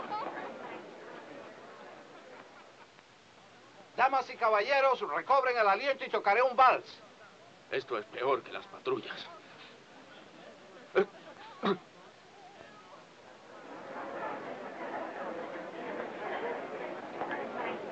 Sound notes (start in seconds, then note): 0.2 guests chattering; 11.5 Gaffer coughs